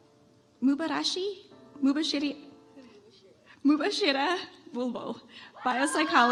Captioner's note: audience applauds